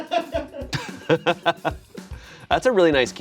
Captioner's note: laughing